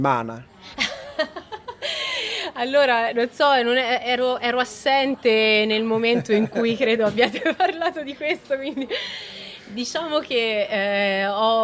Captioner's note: laughter